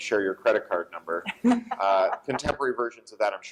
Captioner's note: laughter